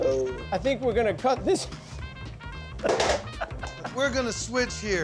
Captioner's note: laughs